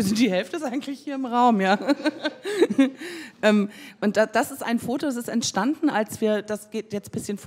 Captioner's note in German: lacht